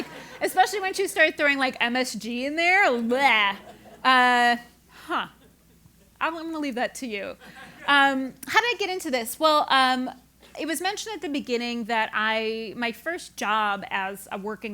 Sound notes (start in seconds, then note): 0.0 laugh; 7.6 laugh